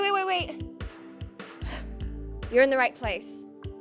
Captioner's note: sigh